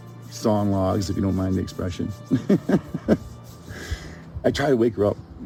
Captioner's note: laughs